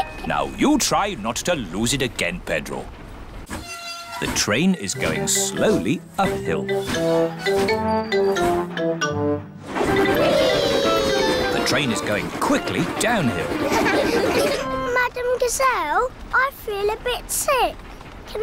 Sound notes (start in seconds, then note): 13.5 laughter